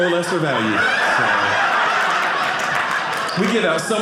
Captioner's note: audience laughing